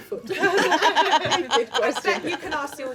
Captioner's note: laughing